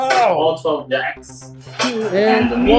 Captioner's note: bell ringing